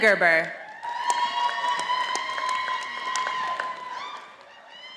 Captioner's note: audience applauding